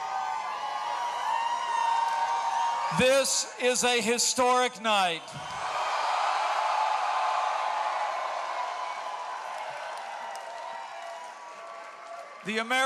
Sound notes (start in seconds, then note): 5.3 cheering